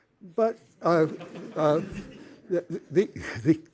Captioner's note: laughter